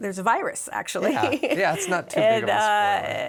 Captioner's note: laughs